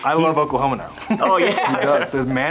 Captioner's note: laughs